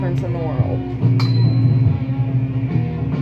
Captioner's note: banging metal sound